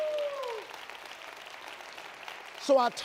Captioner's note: audience applauds